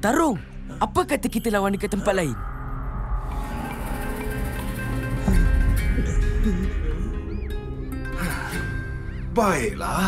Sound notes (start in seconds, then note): 3.1 menacing growl; 4.6 nervous whimpering; 7.9 exhales